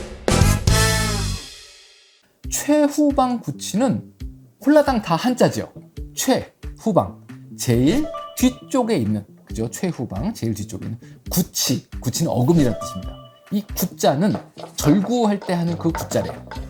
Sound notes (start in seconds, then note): 11.3 Molar: Grinding tooth; 13.6 grinding